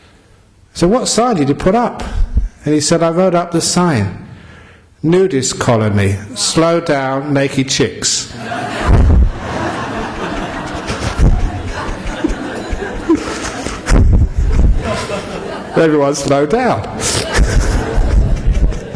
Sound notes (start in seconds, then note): 12.9 laughter; 18.7 laughter